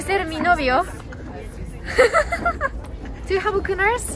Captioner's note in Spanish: Risas